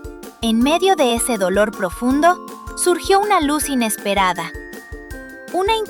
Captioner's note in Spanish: Voz en off